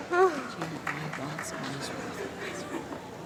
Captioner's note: applause